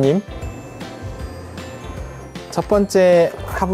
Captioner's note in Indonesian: Berdengung